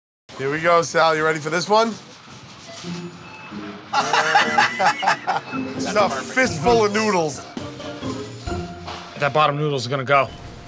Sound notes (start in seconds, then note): 3.9 both laugh